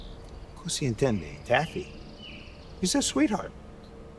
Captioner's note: Lou speaking in Italian